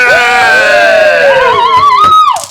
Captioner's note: cheering